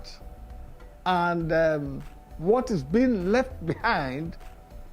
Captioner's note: chuckles